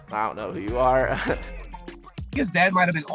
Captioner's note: chuckles